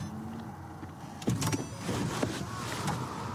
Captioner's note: car door opens